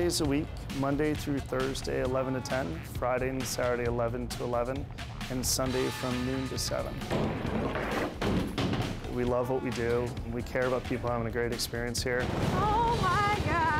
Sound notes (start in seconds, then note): 7.1 ball bouncing into gutter